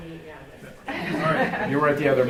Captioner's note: group laughs